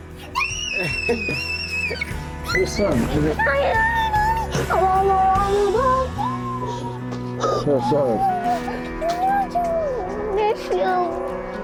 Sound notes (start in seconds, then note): 0.2 squealing; 3.9 exclaiming